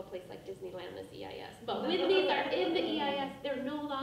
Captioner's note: people laughing